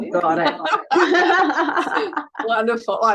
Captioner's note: all laughing